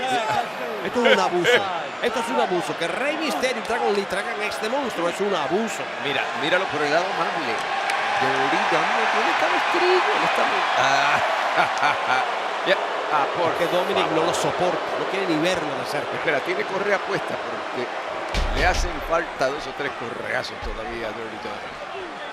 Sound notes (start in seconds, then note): 0.2 laugh; 10.8 laugh